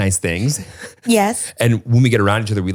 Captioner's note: giggles